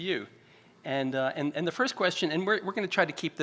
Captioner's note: stutters